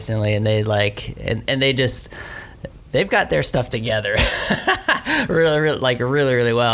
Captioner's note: laughs